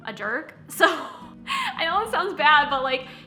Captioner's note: laughing